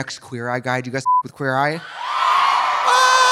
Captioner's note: beep; audience cheering; Trixie screams